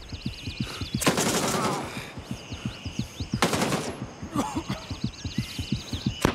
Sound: gunfire; gunfire; gunfire

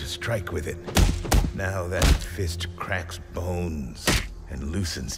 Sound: thumping

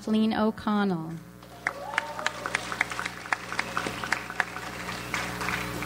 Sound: audience applauds

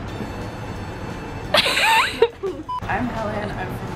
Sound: laughs

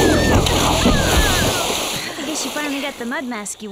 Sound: splashing

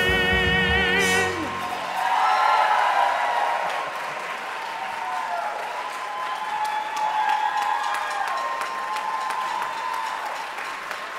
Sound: audience Cheers

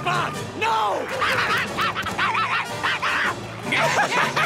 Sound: barking; laughing

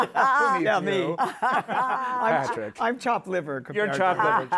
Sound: both laughing

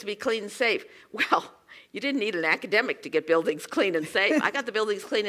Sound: laugh

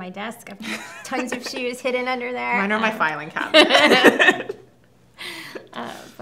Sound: both laugh

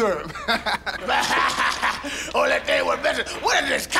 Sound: laughs

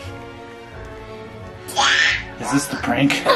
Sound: struggling

